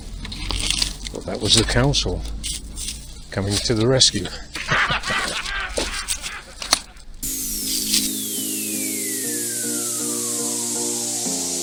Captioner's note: laughter